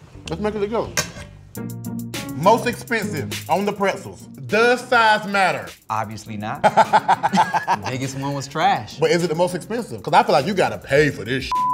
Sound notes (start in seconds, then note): 1.2 upbeat music; 6.6 laughter